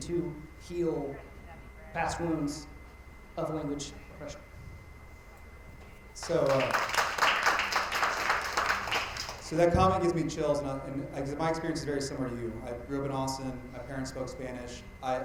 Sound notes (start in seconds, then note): 6.2 attendees applauding